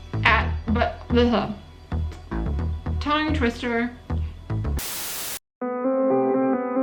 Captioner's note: static noise